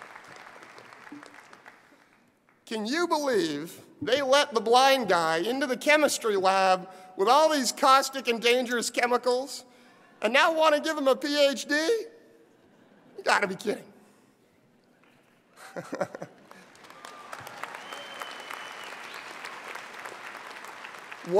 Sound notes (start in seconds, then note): 11.9 laugh; 16.4 applause